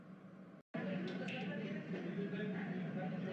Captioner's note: bar chatter